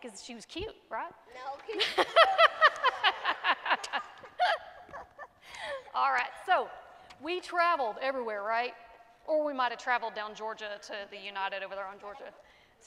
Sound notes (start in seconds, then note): 1.8 laughs; 3.3 congregation laughing